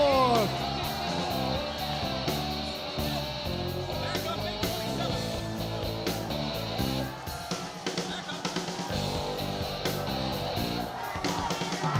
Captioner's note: crowd chatter